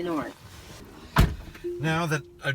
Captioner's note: door slams